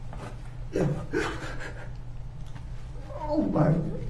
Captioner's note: weeps